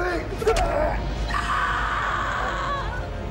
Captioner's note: sword thudding; soft tense orchestral music